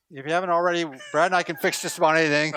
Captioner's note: laughing